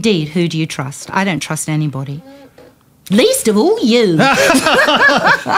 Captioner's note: laughter